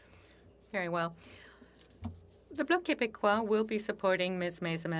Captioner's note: speaking French